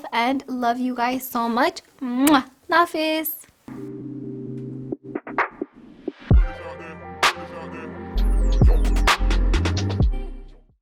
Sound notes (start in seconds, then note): 2.2 blows kiss